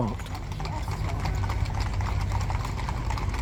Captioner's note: sound of horses trotting past